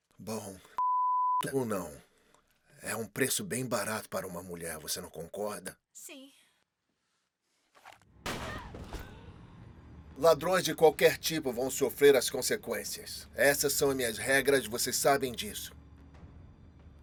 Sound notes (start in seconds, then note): 8.2 gunshot banging; 8.4 honey screams